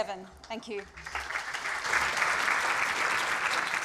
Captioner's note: applause